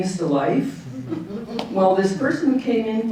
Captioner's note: audience chuckling